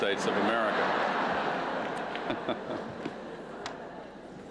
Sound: laughter

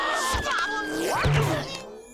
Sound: grunting

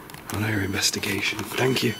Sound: sensor beeps

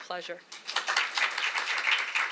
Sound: applause

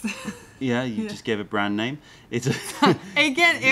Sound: laughter; laughter

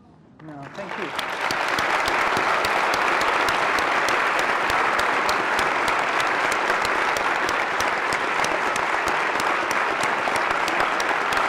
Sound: applause

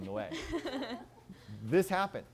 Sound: laughter

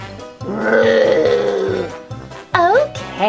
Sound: groans

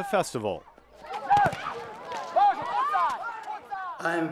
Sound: excited cheering

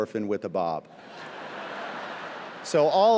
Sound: laughter

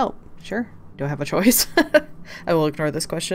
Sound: laughs

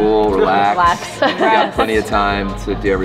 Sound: laughs

